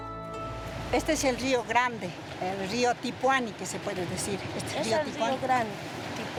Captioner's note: speaking in foreign language